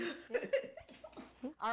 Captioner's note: laughing